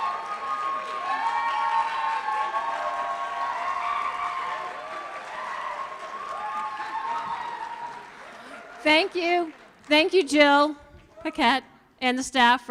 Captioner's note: applause